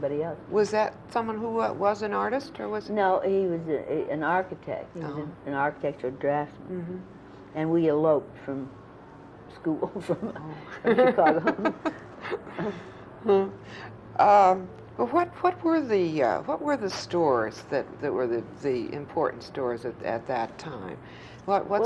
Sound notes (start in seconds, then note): 10.7 laughter